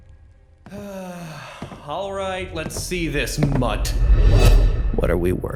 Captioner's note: groans